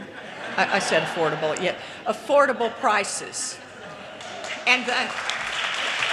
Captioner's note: audience laughter